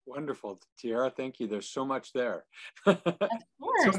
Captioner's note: laughs